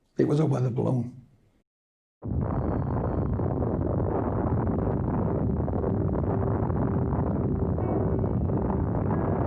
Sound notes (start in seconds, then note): 2.2 explosion blasts